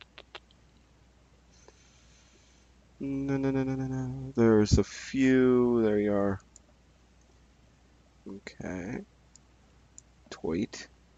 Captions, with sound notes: (humming) There's a few, there you are. Okay, tight.